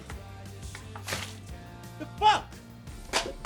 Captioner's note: water splashes